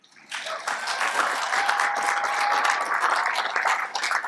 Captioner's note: congregant applauds